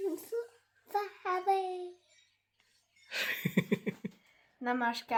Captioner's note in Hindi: हंसी